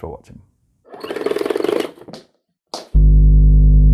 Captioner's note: rotary winding; deep tone